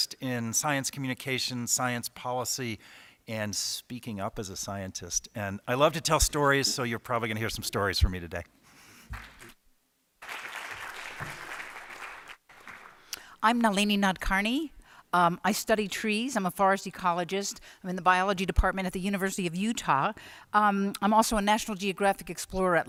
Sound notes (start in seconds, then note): 10.2 applause